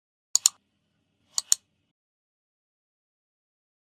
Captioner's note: mouse clicks